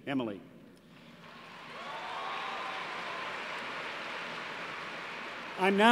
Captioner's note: applause